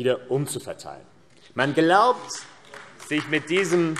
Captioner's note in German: Beifall AfD